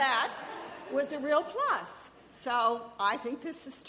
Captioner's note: audience laughing